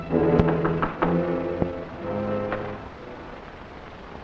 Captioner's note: dramatic music continues; door knocking